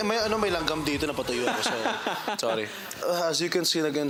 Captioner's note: robi laughing